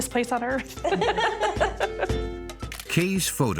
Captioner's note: laughs